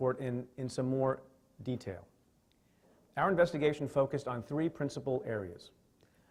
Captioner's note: stutters